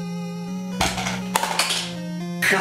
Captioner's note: plonk